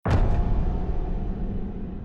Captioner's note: clang echoes